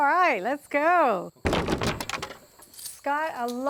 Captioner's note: wood hitting each other and clunking